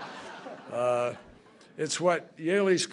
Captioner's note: laughter